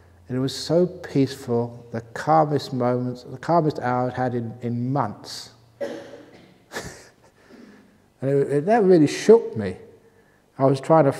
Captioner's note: chuckle